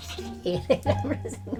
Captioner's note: laughing; laughs